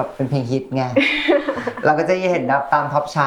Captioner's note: laughs